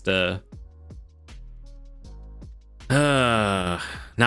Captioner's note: sighs